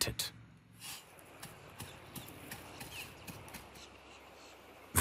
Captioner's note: knocking noises, birds chirping